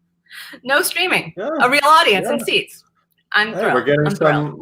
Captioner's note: chuckles